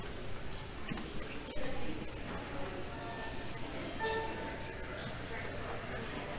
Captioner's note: audience chattering